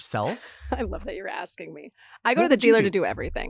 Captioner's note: chuckles